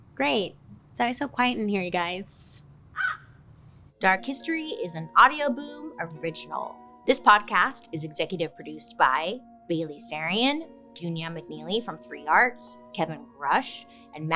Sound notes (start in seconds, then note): 2.9 bird caws